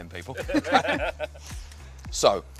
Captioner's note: laughter